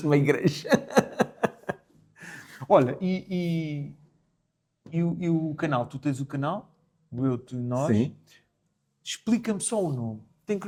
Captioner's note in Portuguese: risadas